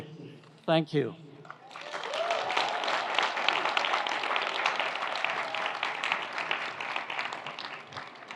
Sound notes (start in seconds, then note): 1.5 audience applauds; 1.6 audience cheers